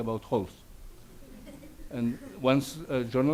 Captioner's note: audience laughs